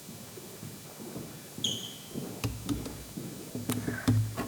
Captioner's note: footsteps